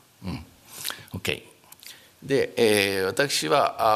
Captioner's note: speaking japanese